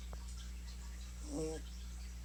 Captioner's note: snore